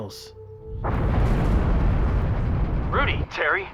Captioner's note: explosion